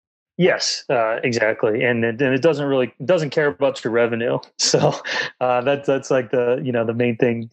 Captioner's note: laughs